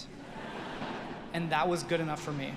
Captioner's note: audience laughing